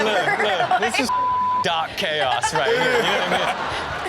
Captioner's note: beep; everyone laughing